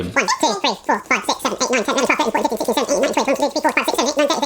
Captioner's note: chipmunk voice counting